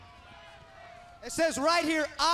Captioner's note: crowd chatter